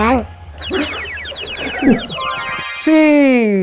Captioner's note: explodes into laughter